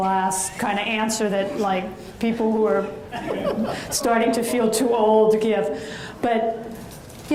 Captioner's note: audience chuckles